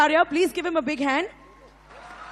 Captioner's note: applause